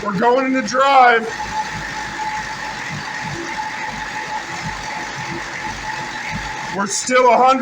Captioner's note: engine idling